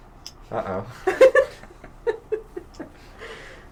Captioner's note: laughs